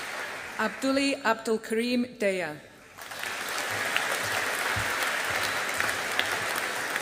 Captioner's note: audience applauding